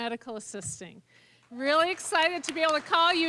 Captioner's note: applause